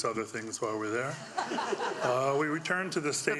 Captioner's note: audience laughing